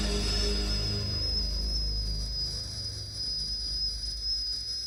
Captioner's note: teakettle whistling